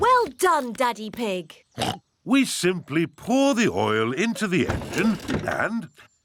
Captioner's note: oinks